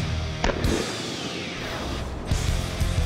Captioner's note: gunshot